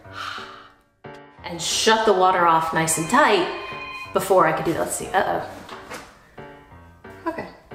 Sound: phone ringing

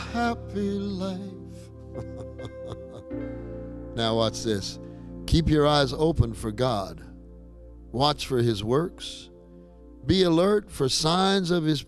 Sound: chuckling

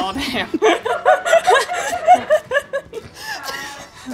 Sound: everyone laughs

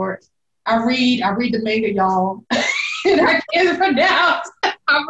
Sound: laughs

